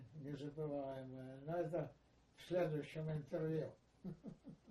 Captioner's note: laughing